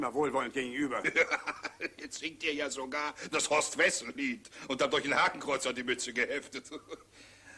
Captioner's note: laughs